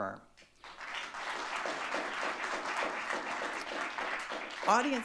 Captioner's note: audience clapping